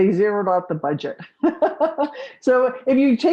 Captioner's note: laughs